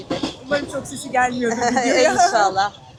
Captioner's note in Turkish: kahkaha